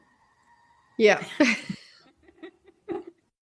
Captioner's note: laughs